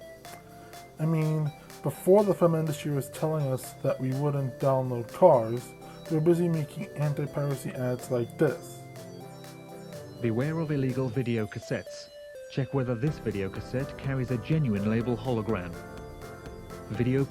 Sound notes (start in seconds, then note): none